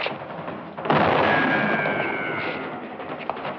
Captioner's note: gunshot; bullet whistling